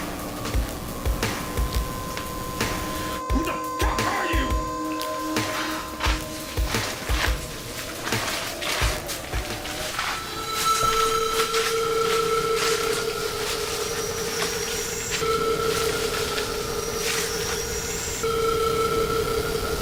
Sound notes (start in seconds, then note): 10.3 ominous sound effect; 13.7 foot steps